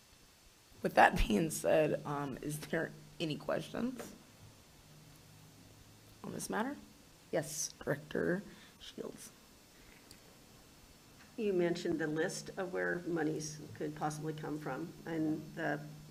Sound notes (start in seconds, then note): none